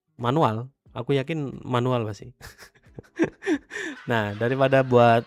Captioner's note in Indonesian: tertawa